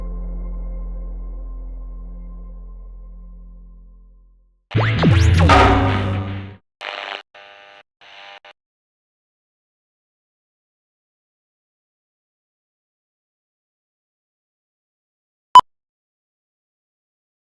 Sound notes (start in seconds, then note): 6.8 television tuning and static; 15.3 beep